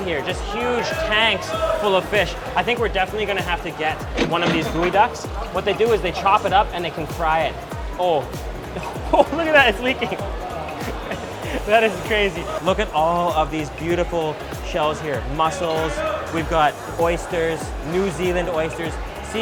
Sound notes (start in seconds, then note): 4.0 register chiming